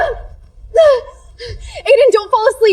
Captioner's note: groaning